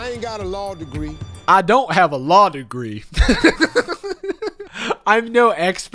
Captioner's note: laughs